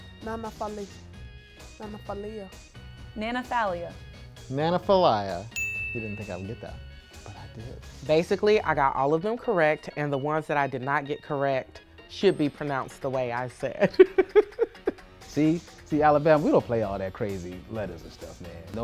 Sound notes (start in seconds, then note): 5.5 bell chimes; 13.8 laughs